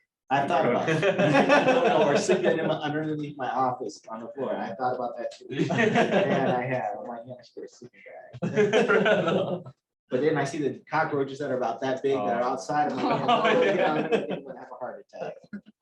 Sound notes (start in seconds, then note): 8.4 laughter